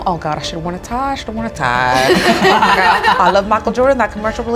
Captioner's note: group laughs